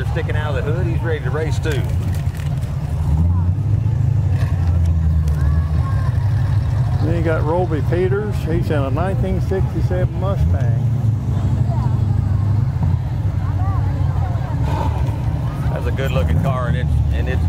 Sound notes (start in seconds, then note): 4.0 revving continues; 12.7 people chatter; 12.7 revving continues